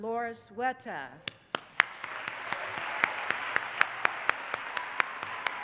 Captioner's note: applause